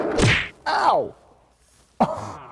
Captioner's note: punch landing